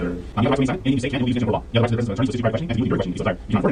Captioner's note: talking sped up